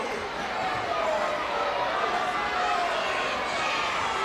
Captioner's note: crowd cheering